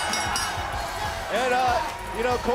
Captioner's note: bell